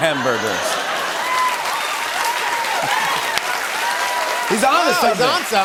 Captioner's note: laughter